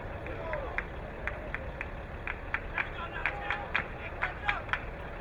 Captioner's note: crowd clapping